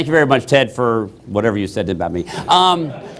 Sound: laughter

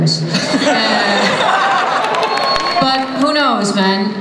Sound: laughter

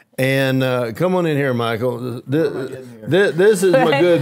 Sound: faintly speaking

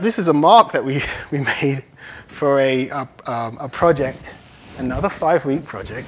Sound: none

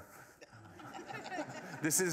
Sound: laughter

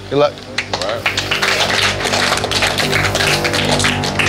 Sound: applauding

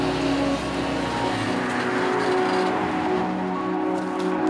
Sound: truck engine purring; relaxed ambient music continuing

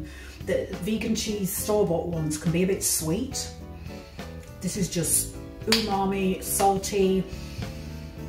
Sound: slap

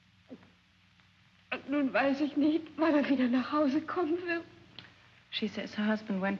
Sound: speaking in German

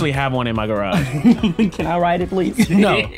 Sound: chuckles

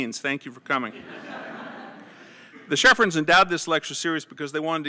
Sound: laugh

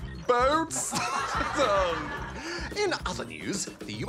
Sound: laughs

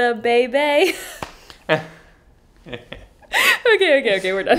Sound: both laughing

